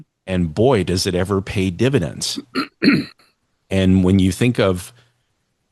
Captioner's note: clears throat and cough